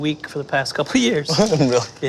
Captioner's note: laughs